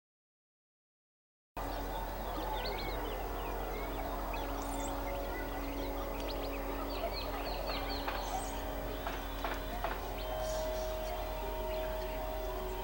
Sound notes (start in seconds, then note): 1.6 birds chirping; 1.6 city noises